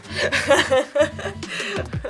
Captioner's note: laughs